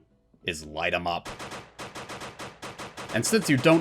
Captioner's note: rapid fire gunshots